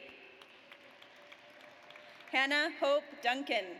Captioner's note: audience applauds